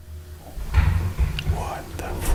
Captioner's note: loud bang